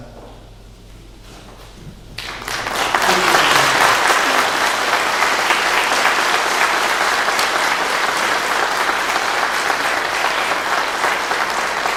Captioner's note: clapping